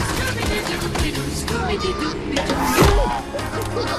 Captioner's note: laughing